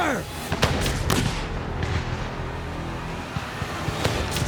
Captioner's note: gunfire